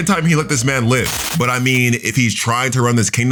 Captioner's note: electricity buzzing